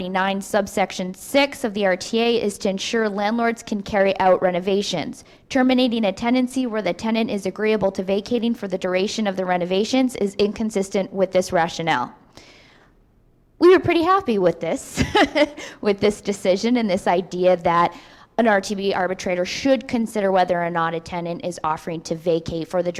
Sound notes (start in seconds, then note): 14.9 laughs